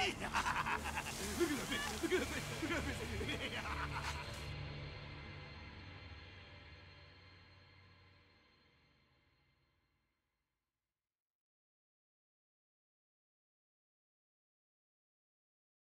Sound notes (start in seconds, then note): 7.5 laughing